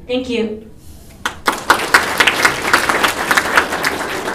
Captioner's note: applause